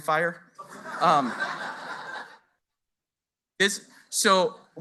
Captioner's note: laughter